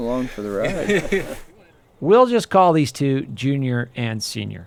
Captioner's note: laughter